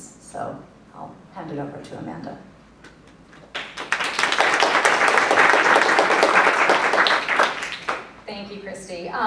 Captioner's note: applause